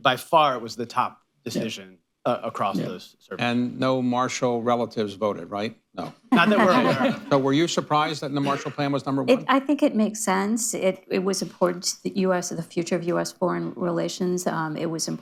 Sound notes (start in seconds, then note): 6.3 laughter